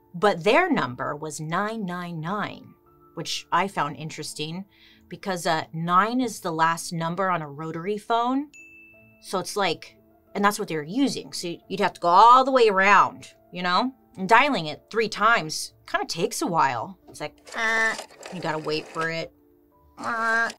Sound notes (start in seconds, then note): 17.7 imitates rotary phone; 20.3 imitates rotary phone